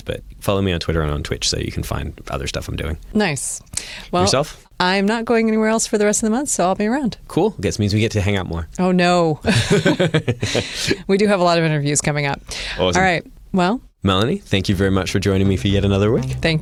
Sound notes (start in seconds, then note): 9.4 laughter